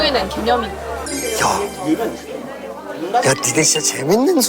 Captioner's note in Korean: 감탄